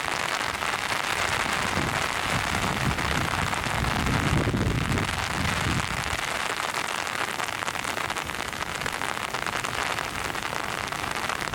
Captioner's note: sound of heavy rain